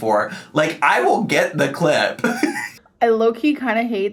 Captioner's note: laughs